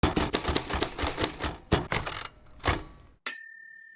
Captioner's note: typewriter typing